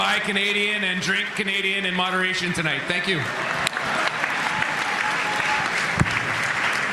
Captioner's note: cheering and Applause